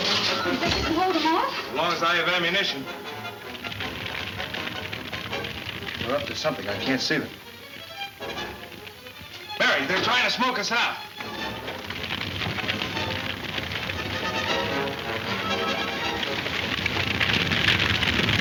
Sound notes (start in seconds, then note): 3.6 flames crackling; 11.3 exciting orchestra music